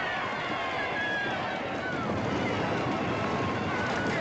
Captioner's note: crowd cheering